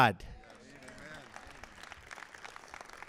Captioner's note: applause